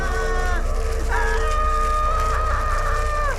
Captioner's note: Andrew continues screaming